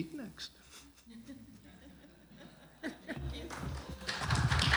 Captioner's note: laughter